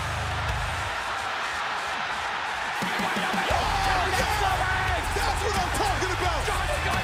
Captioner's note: crowd cheering